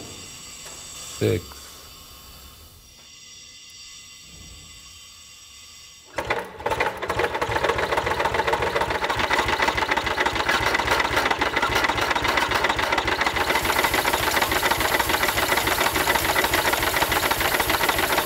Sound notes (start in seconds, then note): 6.3 mechanical sounds; 15.2 hissing sounds